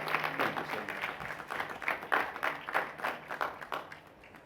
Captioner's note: applause